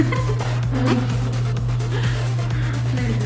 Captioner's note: laughing